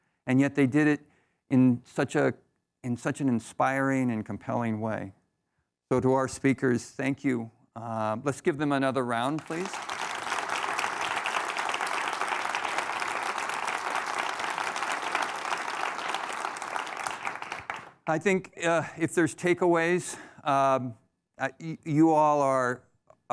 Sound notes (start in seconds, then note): 9.2 audience applauding